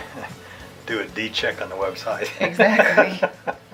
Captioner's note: laughs